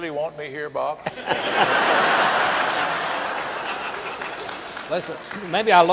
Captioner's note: audience laughing and applauding